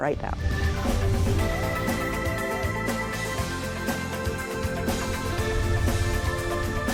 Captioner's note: lively music; logo swooshes